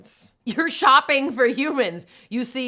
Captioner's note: giggling